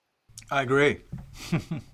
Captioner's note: chuckles